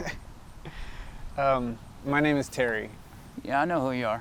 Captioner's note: chuckles